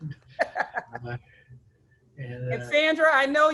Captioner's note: laughs